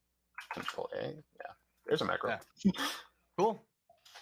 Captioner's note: laughs